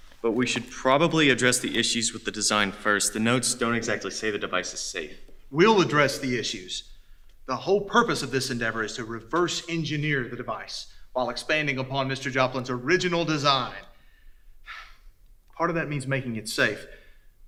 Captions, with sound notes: But we should probably address the issues with the design first... ...the notes don't exactly say the device is safe. We'll address the issues. The whole purpose of this endeavor is to reverse-engineer the device... ...while expanding upon Mr. Joplin's original design. *sigh* Part of that means making it safe.